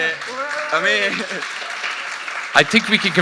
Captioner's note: audience applauding